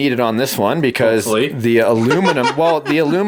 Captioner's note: laughs